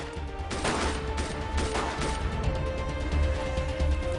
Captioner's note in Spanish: Disparos